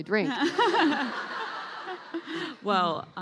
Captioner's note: laughing